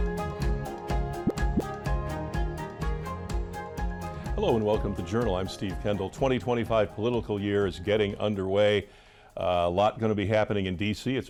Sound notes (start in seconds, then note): 1.2 graphic pops